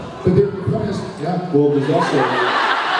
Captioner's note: laughs